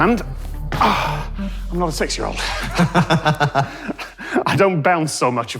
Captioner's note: both laugh